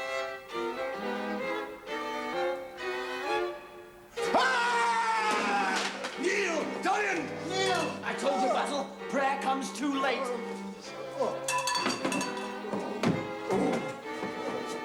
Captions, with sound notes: ( screams ) KNEEL, DORIAN, KNEEL! I TOLD YOU, BASIL, PRAYER COMES TOO LATE. ( Basil groans )